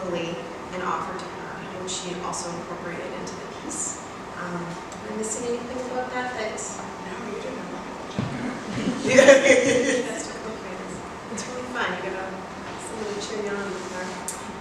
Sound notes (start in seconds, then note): 8.3 laughs